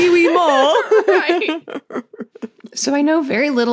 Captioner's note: giggles